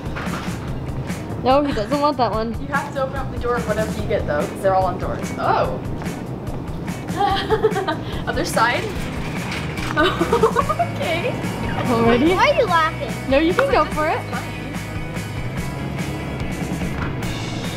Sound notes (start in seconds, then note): 7.1 laughing; 9.8 laughs; 15.0 upbeat music